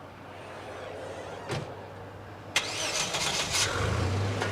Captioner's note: car starting